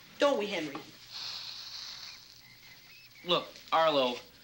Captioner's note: snake hisses